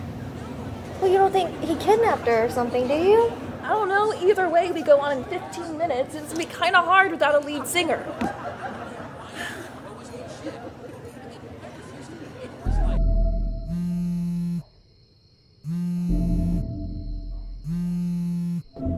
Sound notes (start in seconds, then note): 12.7 dramatic music; 13.8 cellphone vibrating